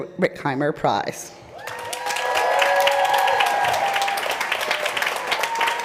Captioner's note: applause